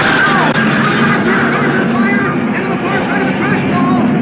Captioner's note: car crashing